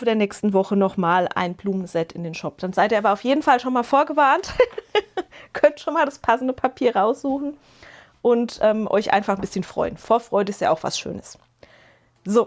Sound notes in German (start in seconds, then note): 4.4 gelächter